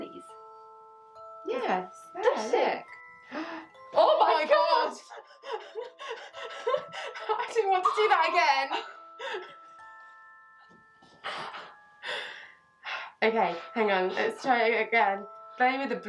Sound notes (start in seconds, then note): 5.1 gasps; 5.1 shocked laughter; 6.6 laughter